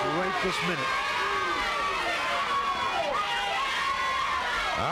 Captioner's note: crowd yelling